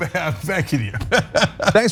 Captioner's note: laugh